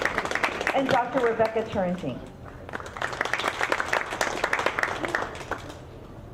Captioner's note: audience clapping